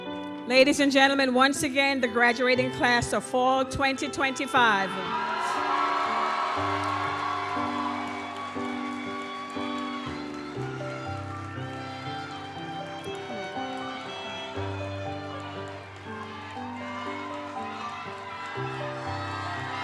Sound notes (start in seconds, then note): 5.3 audience cheers and applauds; 10.5 gentle music continues